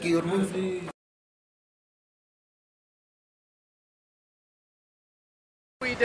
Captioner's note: silence